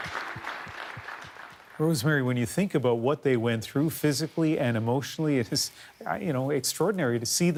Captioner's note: applause